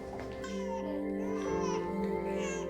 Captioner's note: baby cries